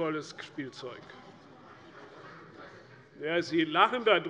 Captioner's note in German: Lachen bei der SPD